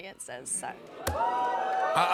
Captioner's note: audience oohs